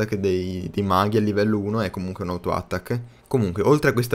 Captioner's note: bla bla bla in italian